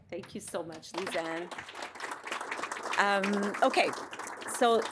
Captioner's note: audience applauding